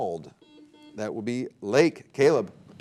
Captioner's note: buzzer beeping